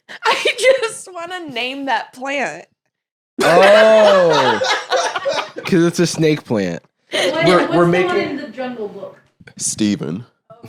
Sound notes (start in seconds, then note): 3.4 laugh